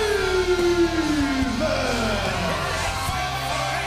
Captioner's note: crowd cheering